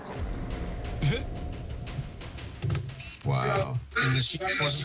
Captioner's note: chuckles